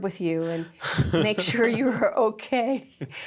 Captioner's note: laugh